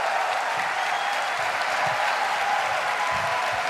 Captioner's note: cheers and applause